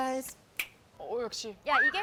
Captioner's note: finger snap